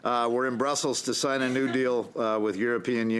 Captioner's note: laughter